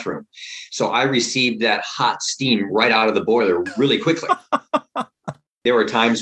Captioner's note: laughter